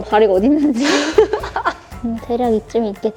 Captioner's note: laughter